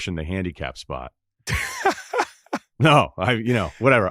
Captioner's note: laughs